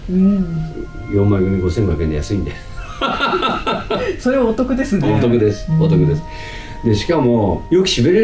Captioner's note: laughs